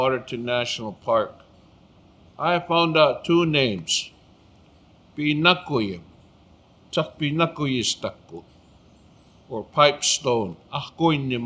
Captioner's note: speaking Blackfoot